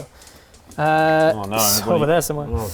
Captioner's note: escapee dice noises